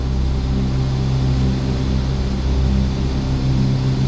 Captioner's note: engine roaring